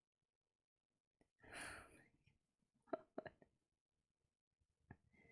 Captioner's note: breathes out